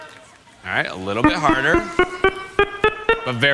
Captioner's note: beeping